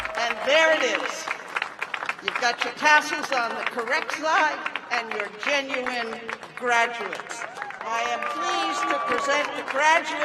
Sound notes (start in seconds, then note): 1.8 cheers and applause